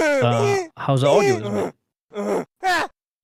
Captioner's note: game grunting noises